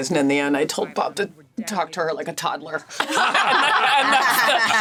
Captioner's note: all laugh